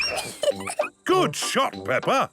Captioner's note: giggles